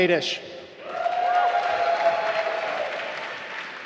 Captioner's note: applause